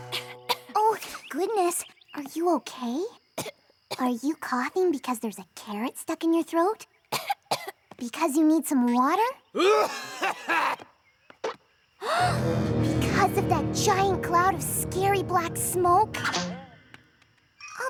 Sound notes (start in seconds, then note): 0.1 coughing; 9.6 coughing loudly; 12.1 gasps